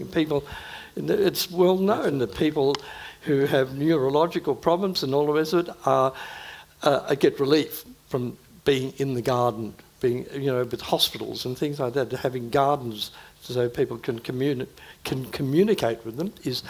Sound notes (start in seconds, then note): none